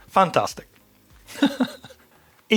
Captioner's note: laughs